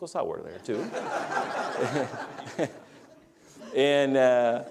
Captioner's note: laughter